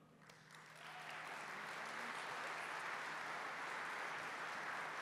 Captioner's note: applause